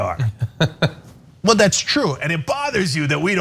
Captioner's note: laugh